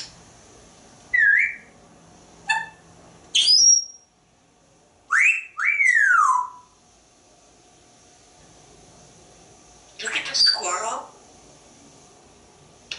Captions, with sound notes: [whistling ...] Look at the squirrel?